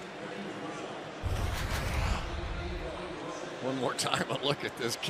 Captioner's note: pa announcement